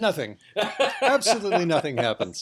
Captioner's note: laughs